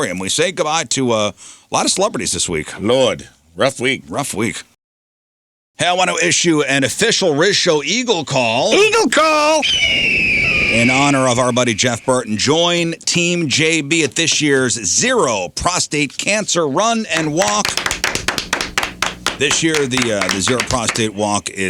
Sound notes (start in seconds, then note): 9.6 whistling; 17.1 clapping